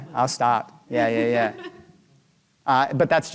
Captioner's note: chuckling